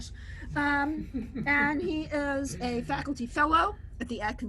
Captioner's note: chuckles